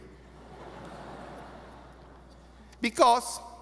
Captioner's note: audience laughing